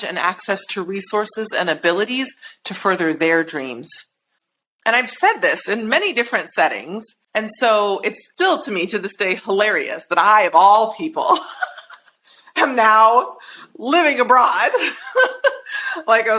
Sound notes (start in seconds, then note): 11.3 chuckles; 14.7 chuckles